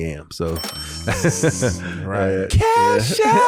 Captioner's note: cash register dings